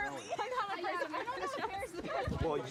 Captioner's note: laughter